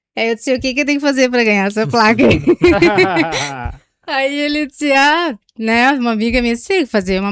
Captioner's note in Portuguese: risadas